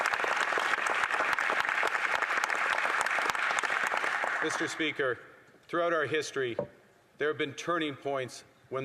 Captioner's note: applause